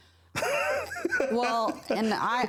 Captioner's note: laughing